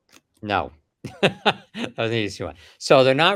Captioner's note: laughs